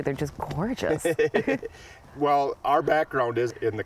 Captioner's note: laughs